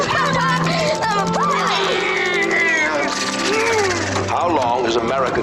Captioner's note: kids making airplane sounds